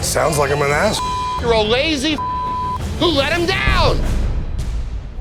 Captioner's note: beep